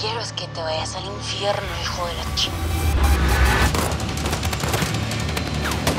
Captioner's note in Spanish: Disparos